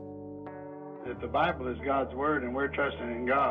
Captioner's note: voiceover